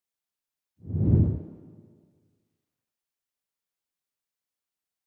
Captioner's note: logo whooshing